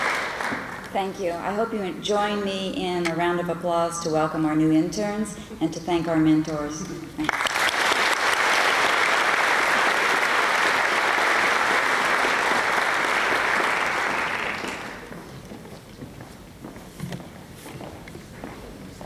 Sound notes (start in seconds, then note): 7.2 applause